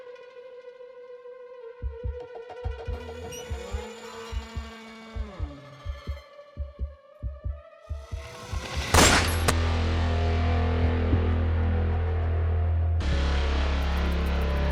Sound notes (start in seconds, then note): 8.6 gun firing; 12.8 dramatic music